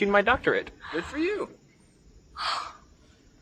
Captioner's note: Hope gasping